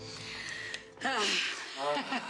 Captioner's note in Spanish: Suspiros; Risas